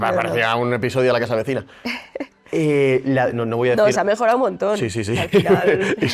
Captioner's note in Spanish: risas